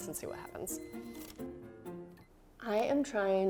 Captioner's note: microwave keys beep